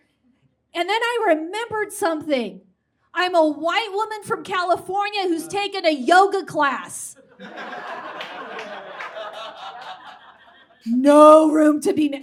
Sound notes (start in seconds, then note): 7.3 audience laughs